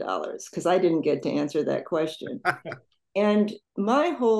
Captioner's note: laughs